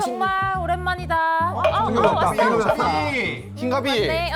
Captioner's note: Confucian tone sound effect